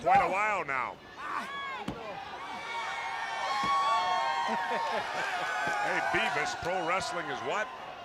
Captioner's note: crowd cheering